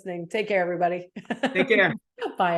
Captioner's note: person laughing